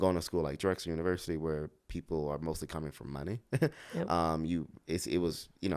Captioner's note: laughs